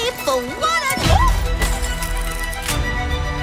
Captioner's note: shrieks